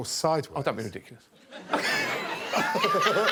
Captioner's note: laughter